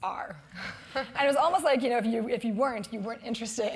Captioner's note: laugh